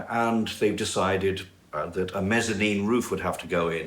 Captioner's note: none